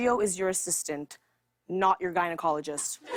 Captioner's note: laughter